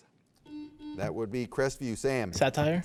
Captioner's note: buzzer beeps